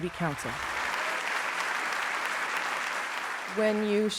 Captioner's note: applause